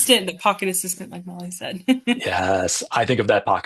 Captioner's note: laughs